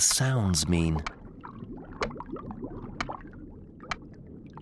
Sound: seal continues clicking

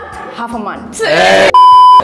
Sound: laughs

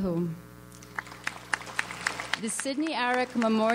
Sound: audience applauds

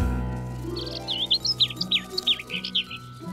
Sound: birds chirping

